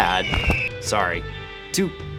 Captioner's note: Angry Eagle SFX